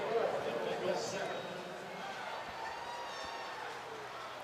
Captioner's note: pa announcement